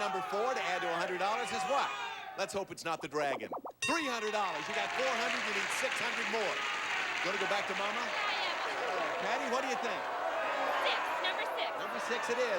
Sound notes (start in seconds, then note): 4.3 audience applauding